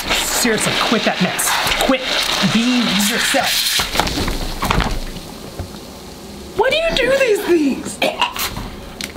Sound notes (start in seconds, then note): 4.0 soda explodes softly; 7.9 coughs